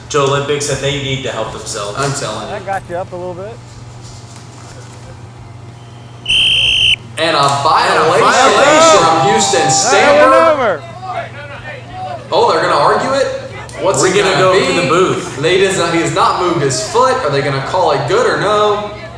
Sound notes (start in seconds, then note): 5.7 whistle; 10.6 group yelling